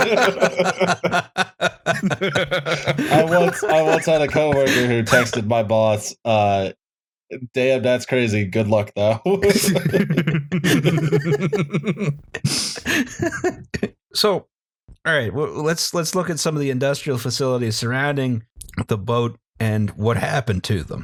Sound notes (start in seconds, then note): 0.0 laughter; 9.4 laughter